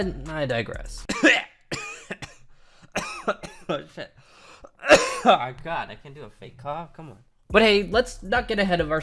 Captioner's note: fake Coughing turning into real cough